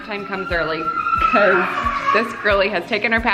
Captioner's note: kids screaming